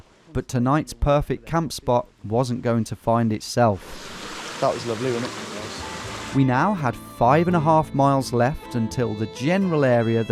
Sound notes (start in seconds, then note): none